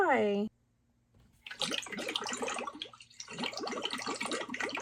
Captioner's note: water churns